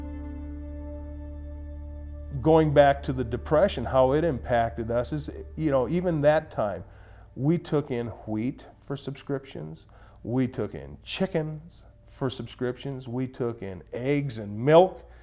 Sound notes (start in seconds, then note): none